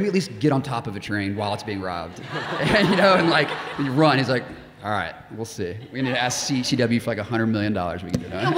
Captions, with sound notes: at least get on top of a train while it's being robbed." (audience laughing) You know, and like, you run. He's like, "All right, we'll see. We need to ask CW for like a hundred million dollars, we can do it."